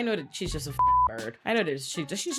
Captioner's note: beep